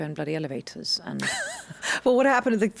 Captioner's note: laughs